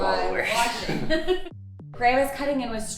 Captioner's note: laughs